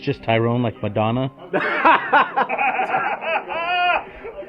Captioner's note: laughing